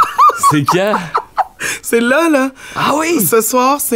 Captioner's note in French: rire